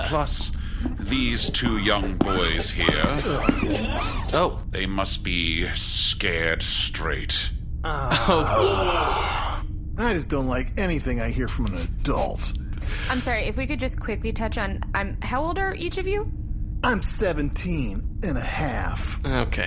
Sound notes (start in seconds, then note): 3.4 AR-33 and Gavin sigh petulantly; 7.8 the teens groan, Bargie goes ‘yeah!’; 10.4 petulant